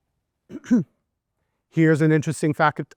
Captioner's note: coughing